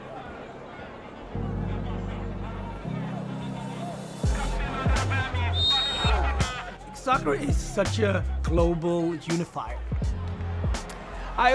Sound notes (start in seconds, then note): 3.9 man speaking native language; 5.4 whistle blows; 9.6 cheers and applause